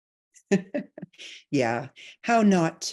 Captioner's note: chuckling